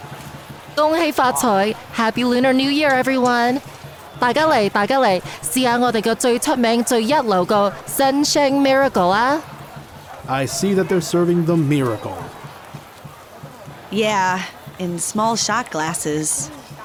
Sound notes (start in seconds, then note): 5.1 in Cantonese